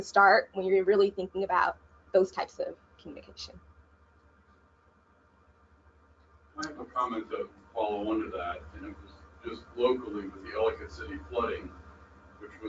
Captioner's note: audience member speaking